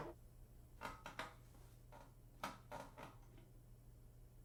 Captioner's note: chair creaks